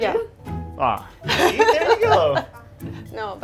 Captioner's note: laughs